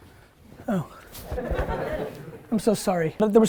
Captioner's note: students laugh